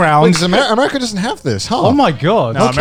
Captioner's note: chuckling